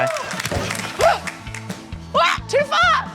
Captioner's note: gasps